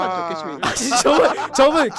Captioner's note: laughing